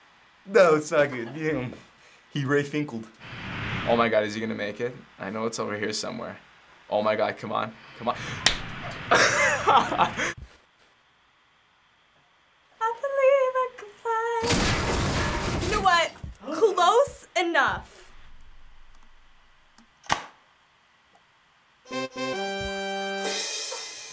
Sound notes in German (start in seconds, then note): 8.8 Lachen; 10.3 Schweigen; 18.0 Schweigen; 21.9 Sieg Musik; 23.2 Becken stürzt ab